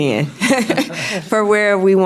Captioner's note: panel laughs